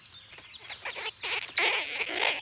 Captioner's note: squeaks